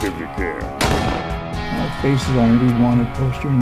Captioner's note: gun fires